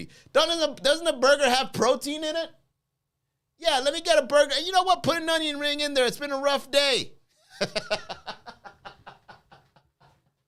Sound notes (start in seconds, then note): 7.5 laughs